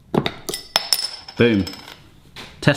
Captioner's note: cap opening; cap dropping